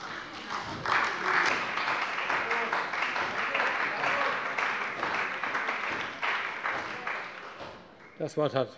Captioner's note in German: Beifall bei der CDU